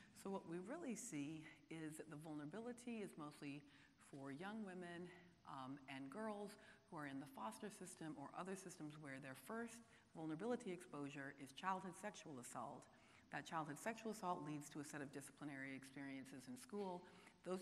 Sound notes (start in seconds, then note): none